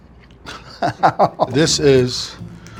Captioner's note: laughing